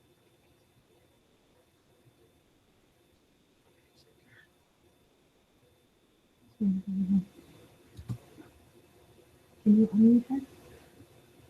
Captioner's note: silence